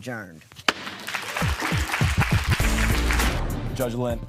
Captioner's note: cheers and applause